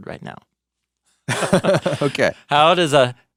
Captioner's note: laughs